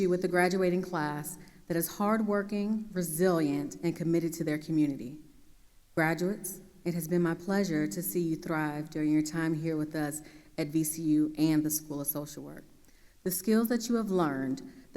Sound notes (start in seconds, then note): none